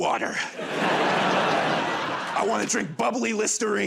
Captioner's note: laughter